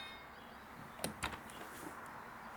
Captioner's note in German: Klingeln